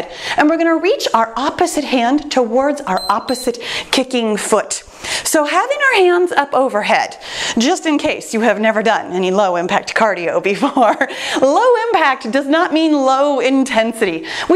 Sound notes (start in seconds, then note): 2.9 timer beeps